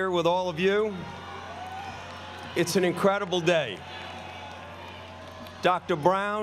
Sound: applause

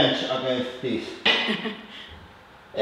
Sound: light laughter

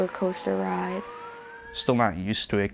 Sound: siren wailing

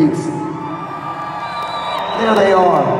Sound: cheering

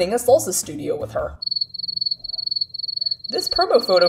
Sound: crickets chirping

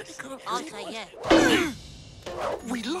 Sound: all grunt

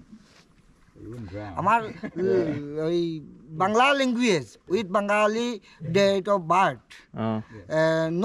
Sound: speaking local language

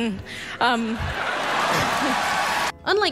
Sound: applause, cheering

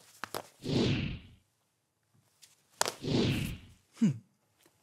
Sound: air whooshing

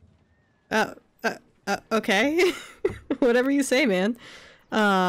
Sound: laughs

